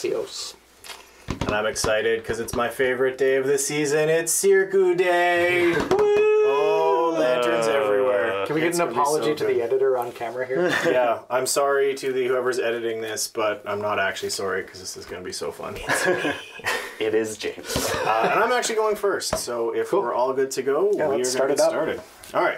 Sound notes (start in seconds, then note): 5.5 collective groans; 16.1 whisper